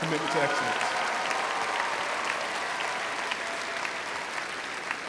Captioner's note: crowd applauds